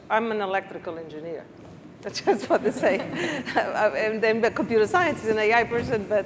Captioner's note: laughs